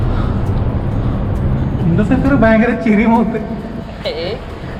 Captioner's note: laughing